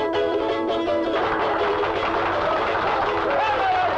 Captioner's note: customers applaud and cheer